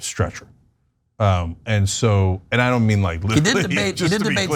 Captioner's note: laugh